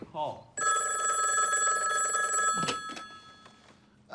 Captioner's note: phone rings